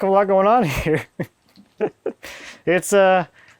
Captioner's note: laughing